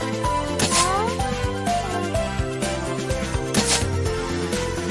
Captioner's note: cough cough